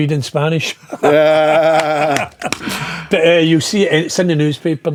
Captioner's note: laughing